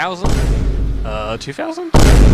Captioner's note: vineboom